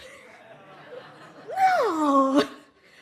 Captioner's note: audience laughs